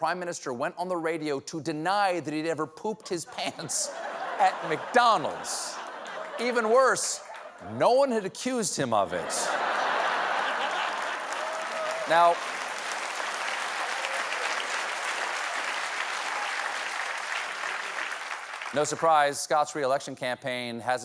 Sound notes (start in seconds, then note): 3.2 laughter; 6.1 applause; 6.1 laughter